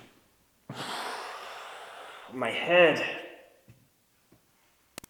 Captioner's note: exhales